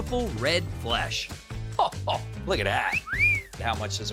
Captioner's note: whistling